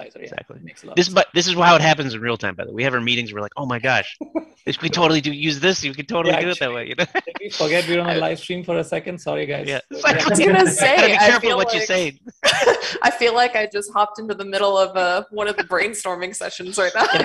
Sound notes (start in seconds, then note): 12.2 laughing